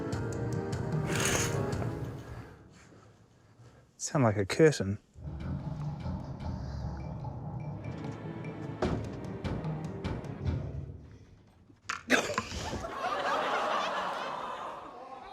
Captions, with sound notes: (CURTAIN HOOKS RATTLE) Sounded like a curtain. (ENERGETIC MUSIC PLAYS) (MUSIC STOPS) - (CHUCKLES)